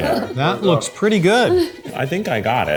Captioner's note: laughs